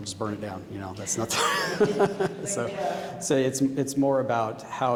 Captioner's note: laughing